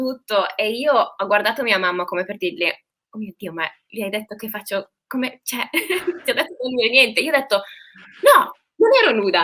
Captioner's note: laughs